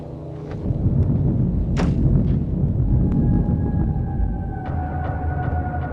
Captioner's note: thunder roaring